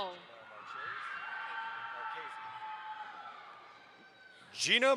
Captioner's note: audience applauds